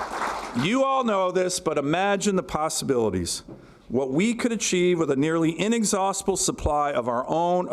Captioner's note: applause